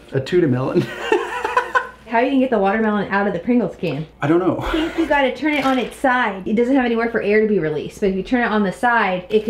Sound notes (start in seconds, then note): 0.8 laughing